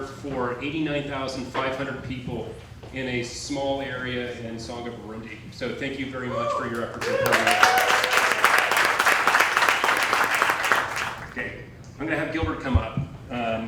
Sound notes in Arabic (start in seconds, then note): 6.9 هتاف الضيوف